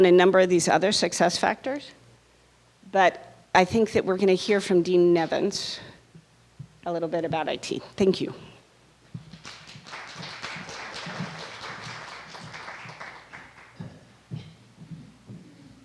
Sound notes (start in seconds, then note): 11.5 applause